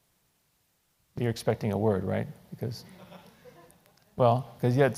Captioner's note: laugh